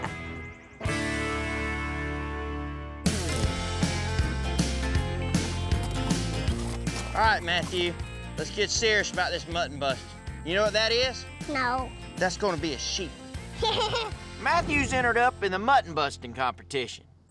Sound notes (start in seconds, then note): 13.5 giggles